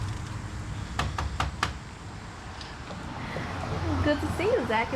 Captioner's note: door knocks